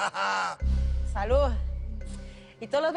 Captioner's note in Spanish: Risas